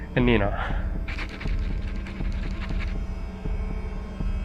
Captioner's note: pen scribbling